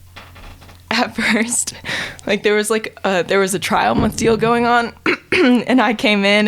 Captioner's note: chuckles